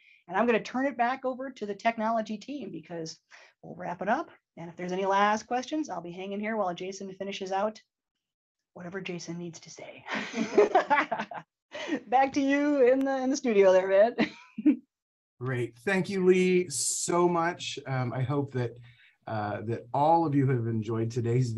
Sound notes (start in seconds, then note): 10.2 laughs